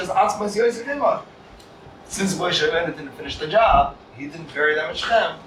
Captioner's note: Hebrew